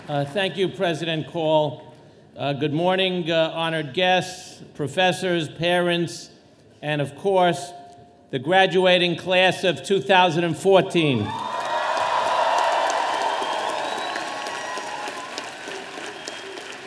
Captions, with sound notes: - Thank you President Call. Good morning honored guests, professors, parents and, of course, the graduating class of 2014. (audience cheering)